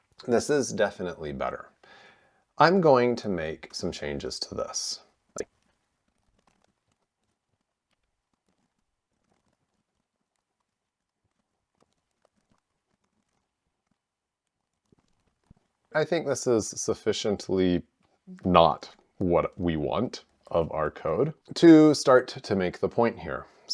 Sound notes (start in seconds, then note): 14.8 silence